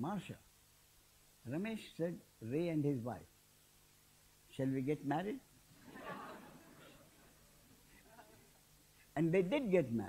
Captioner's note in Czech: smích